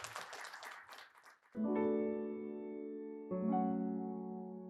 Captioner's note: audience claps